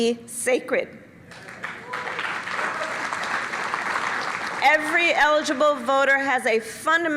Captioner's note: applause